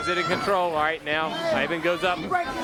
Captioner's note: crowd chatter